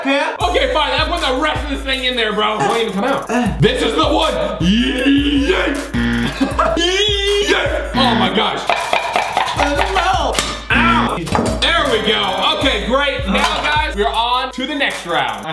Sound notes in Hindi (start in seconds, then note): 5.9 बजर; 7.8 बजर